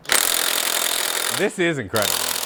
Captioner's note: drill whirring